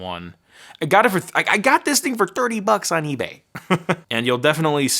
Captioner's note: laughing